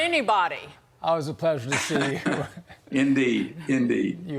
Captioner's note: laughter